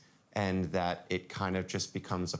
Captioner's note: none